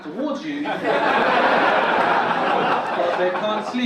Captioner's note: audience laugh